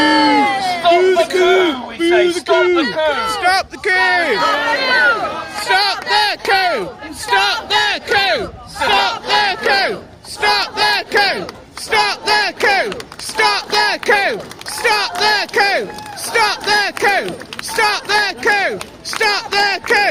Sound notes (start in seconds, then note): 0.0 booing; 3.6 angry Chanting